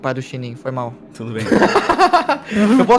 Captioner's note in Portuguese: risadas